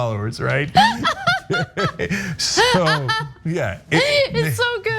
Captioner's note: laugh